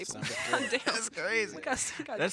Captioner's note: laughs